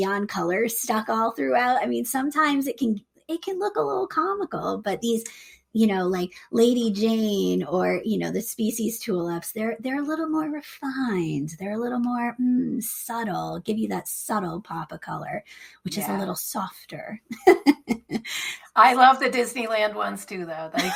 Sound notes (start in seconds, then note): 17.3 chuckles